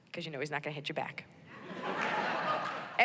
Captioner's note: laughter